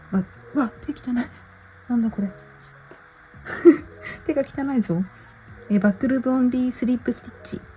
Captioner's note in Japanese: 笑い